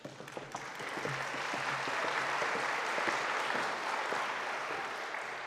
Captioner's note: audience applauding